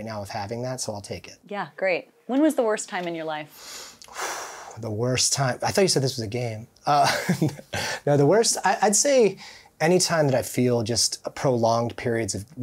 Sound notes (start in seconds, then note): 3.6 breathing deeply; 6.9 chuckling